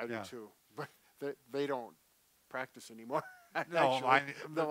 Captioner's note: laughs